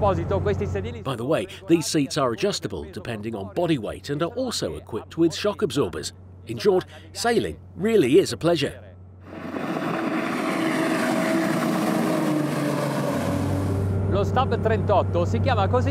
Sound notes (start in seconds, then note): 9.2 engine roars